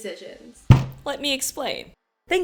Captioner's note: thud